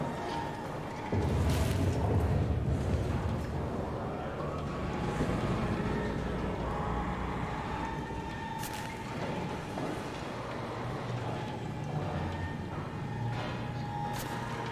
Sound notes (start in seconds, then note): 3.8 whirring and clicking continues, closer; 11.6 uneasy Robotic breathing; 13.3 distant clattering